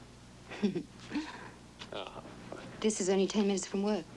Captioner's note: laughing